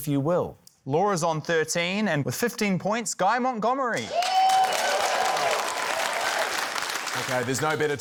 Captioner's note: cheering, applause